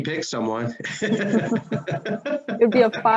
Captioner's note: laughing